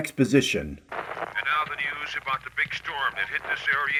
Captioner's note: static